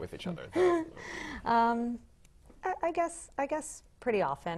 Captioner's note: laugh